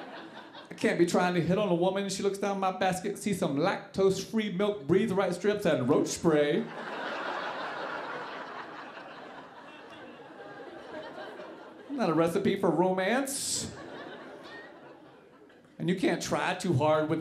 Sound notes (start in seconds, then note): 6.6 audience laughing